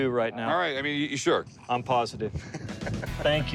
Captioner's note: laughs